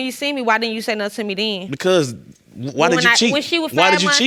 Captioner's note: stutters